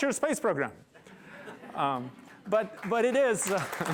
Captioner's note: laughter; applause